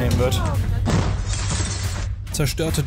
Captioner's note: crack, glass shatters